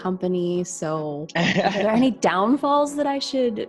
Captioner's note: laughing